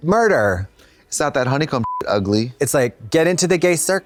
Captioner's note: beep